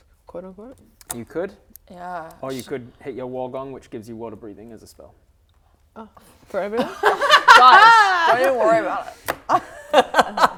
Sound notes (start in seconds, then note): 6.8 laughing